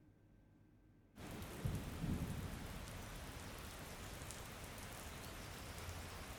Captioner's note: rain pattering; thunder rumbling; birds chirping; rain continues pattering